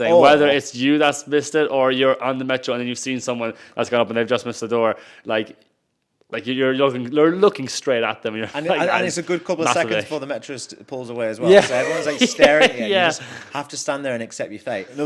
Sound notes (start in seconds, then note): 8.3 chuckles; 11.4 laughs